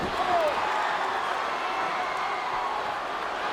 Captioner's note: crowd cheering